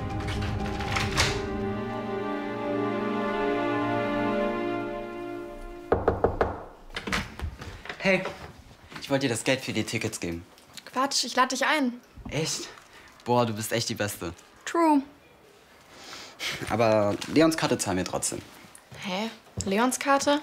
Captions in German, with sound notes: *Es klopft.* Hey. Hier, das Geld für die Tickets. Ich lade dich ein. - Echt? Du bist echt die Beste. True. Leons Karte zahlen wir aber. - Hä, Leons Karte?